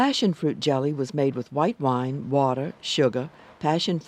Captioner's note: voiceover